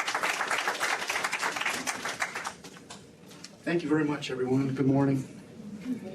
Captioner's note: applause